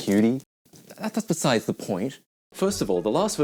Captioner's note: stammers